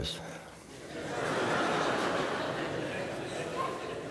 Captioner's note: congregation laughs